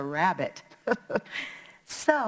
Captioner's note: laughing